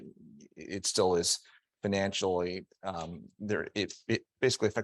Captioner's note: stammering